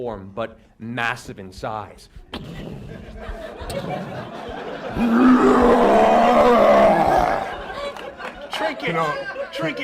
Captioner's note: stomping noises, roar